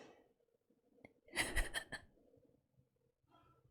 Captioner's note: laughs